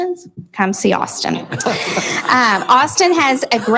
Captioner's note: laughing